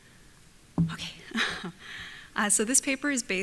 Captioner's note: laughs